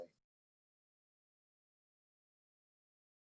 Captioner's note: silence